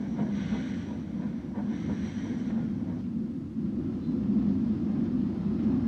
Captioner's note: train passes